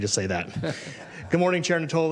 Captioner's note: laughter